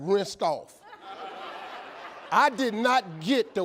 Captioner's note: audience laughing